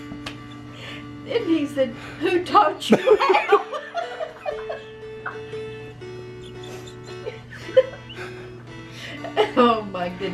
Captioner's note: more Laughter